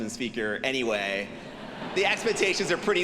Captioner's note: audience laughing